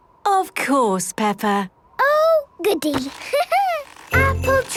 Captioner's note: laughing